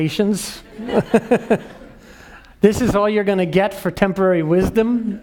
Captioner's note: laugh